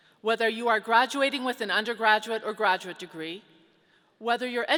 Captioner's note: none